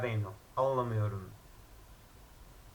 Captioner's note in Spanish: "no comprendo", en turco